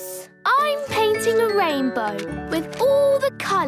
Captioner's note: none